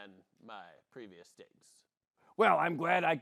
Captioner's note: gruffly